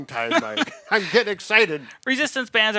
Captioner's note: laughing